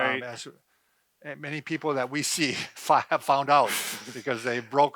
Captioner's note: laughs